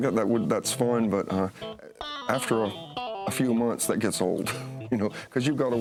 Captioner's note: laughs